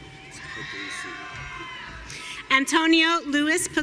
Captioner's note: audience cheering